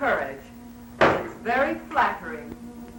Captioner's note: bangs glass